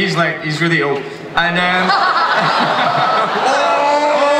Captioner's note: everyone laughs